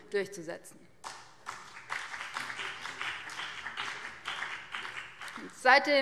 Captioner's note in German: Beifall BÜNDNIS 90/DIE GRÜNEN